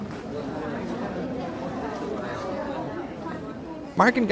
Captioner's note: audience chatter